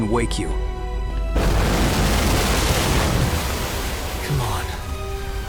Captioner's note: roof breaks as rocks and debris crash down